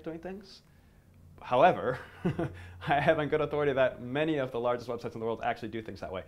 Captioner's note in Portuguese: risos